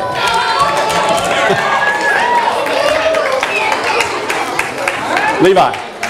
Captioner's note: audience applause